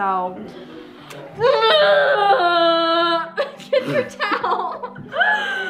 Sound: moans

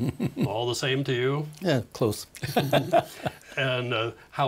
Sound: laughing

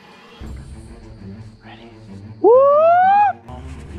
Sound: whoop

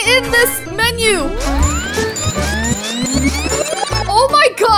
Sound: video tape rewinds

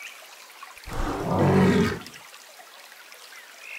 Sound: bear growl

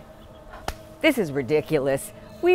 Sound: hand slaps thigh

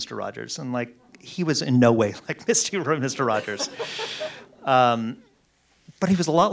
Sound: laughs

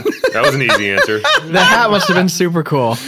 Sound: laughter

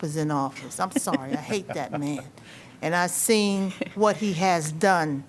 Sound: laughter

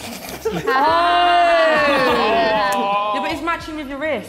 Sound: all laughing

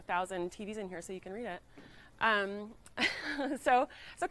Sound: laughs

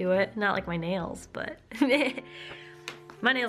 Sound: laughter

